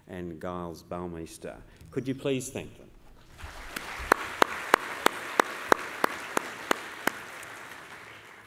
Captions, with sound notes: and Gilles Boumeester. Could you please thank them? [APPLAUSE]